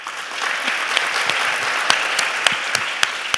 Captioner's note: applause